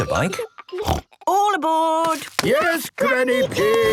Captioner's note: snort